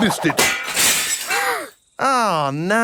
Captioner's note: shatters